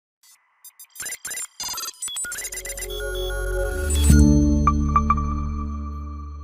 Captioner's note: bright music; robotic beeps play